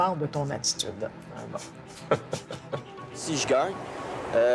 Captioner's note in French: Gaétan Boucher rit